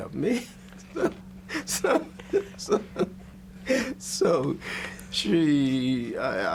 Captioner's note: both laugh